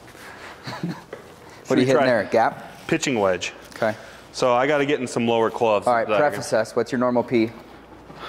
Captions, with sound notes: - (chuckles) What are you hitting there, a gap? - Pitching wedge. - Okay. - So I gotta get in some lower clubs. - All right. Prefaces, what's your normal P?